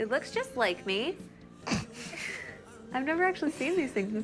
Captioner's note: both chuckle